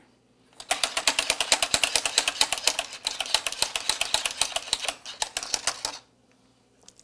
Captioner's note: machine cranking